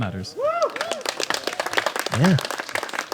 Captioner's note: applause